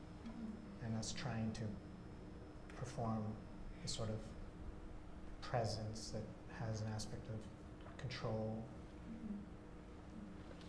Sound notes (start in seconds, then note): none